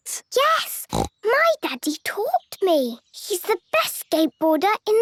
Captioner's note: snorts